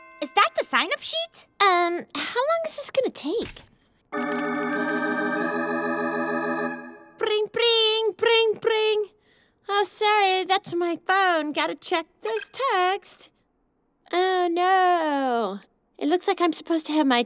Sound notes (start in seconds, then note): 4.2 dramatic music; 6.9 fakes telephone ringing